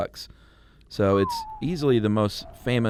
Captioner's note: whistling